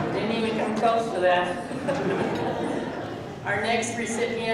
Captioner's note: laughing; laughs